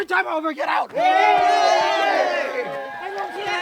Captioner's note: cheering